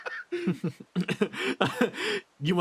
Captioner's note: Etete Laugh; laugh